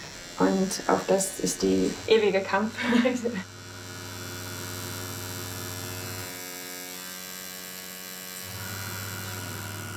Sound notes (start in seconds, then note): 3.7 persistent whirring